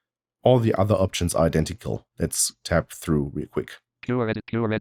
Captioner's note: automated voice